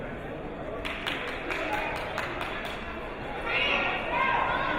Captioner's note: clapping